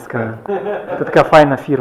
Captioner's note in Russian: смеётся